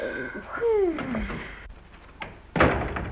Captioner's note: groans